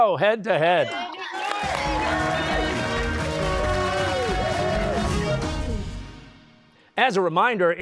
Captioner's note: cheers and applause